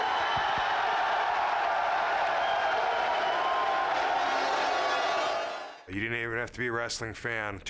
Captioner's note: applause